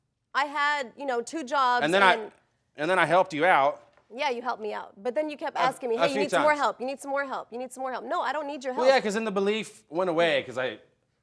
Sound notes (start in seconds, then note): none